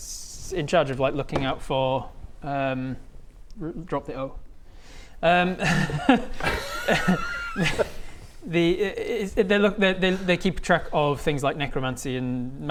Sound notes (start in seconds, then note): 5.5 cheeky laugh